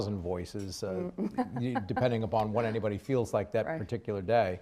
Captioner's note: laughs